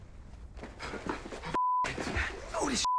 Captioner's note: panting